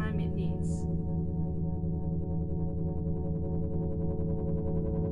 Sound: electronic humming

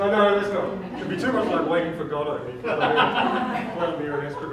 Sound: laughs

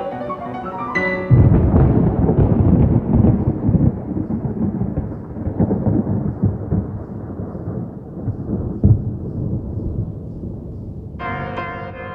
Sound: thunder

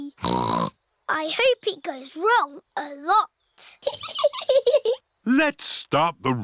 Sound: snorts; chuckles

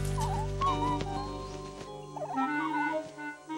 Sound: bird Singing

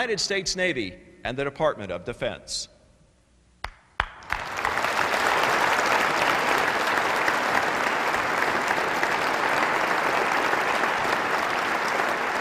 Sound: applause

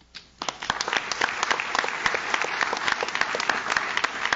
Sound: audience claps

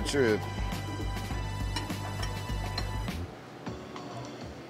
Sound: utensils clinking

